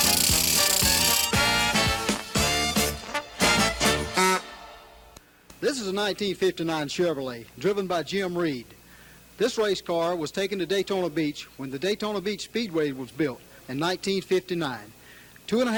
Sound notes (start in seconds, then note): 3.9 car horn